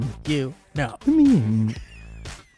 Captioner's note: making weird small noises